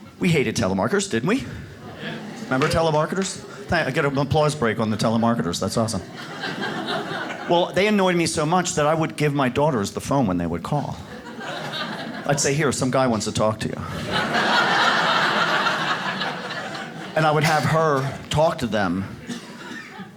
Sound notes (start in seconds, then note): 1.9 audience claps; 6.4 audience laughs; 13.8 audience laughs